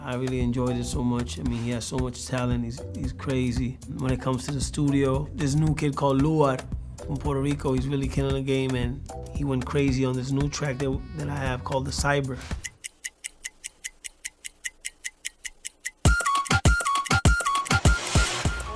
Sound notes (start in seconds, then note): 12.3 ticking